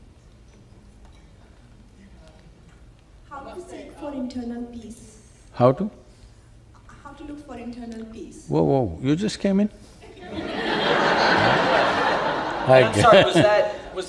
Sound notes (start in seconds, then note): 10.1 laughter